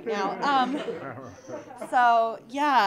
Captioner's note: audience laughing